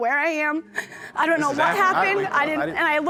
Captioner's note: audience murmuring